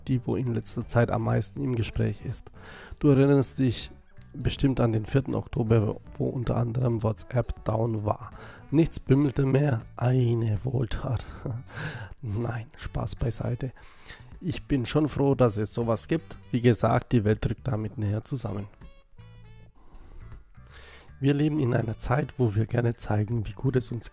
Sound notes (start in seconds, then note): 11.3 laughs